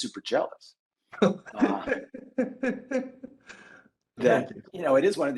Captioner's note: laughs